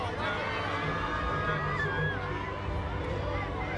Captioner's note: people chattering